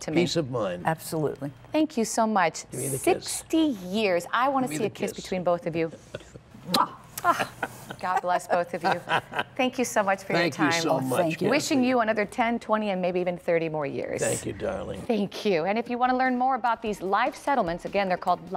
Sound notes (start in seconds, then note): 7.2 laughter